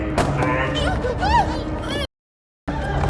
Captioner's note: Mia moaning